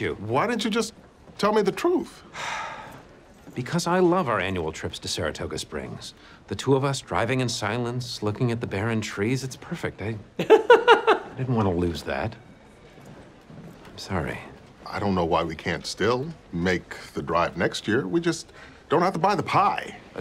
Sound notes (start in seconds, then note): 2.3 sighs; 10.4 laughs